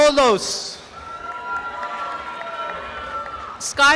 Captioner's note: applause and cheering